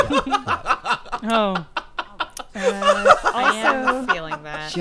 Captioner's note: laughing